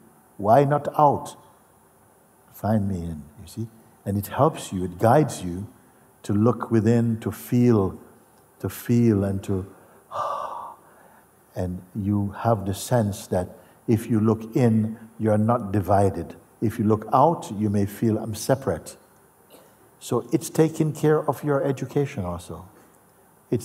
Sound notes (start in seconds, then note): 9.7 atmet aus